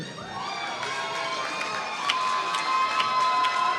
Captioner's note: applause